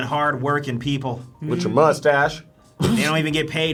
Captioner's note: laughs